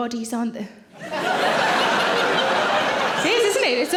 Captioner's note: audience laughing